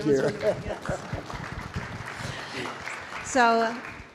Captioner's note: audience applauding